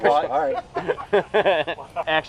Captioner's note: laughing; laughs